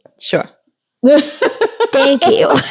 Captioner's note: laughing